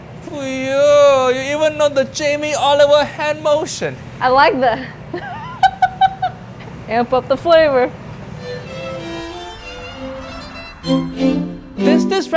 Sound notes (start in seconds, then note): 4.7 laughs; 8.2 gentle music